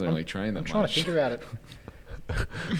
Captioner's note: giggles